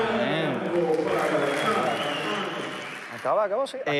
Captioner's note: applauding